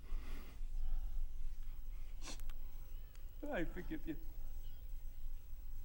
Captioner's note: sniffles